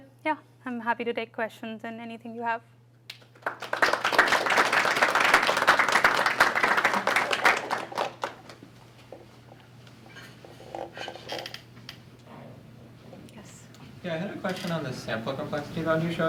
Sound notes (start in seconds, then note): 3.2 applause